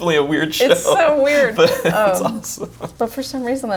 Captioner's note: laughs